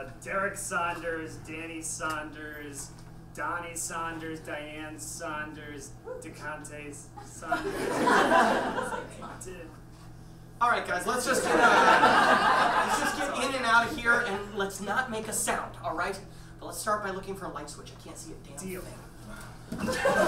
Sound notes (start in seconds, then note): 7.4 audience laughs